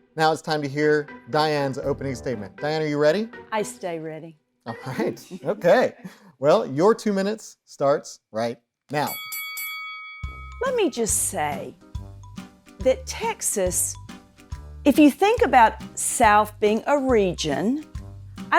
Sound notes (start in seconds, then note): 9.0 bell ringing